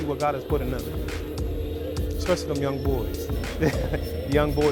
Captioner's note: laughs